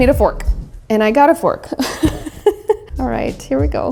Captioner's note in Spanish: risas